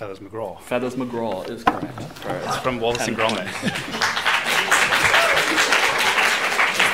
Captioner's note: rapturous applause